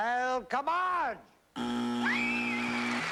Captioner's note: buzzer